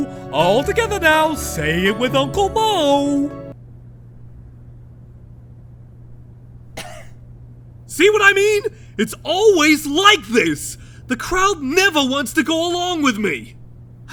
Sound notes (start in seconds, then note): 6.8 cough